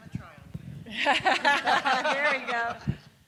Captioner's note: group laughing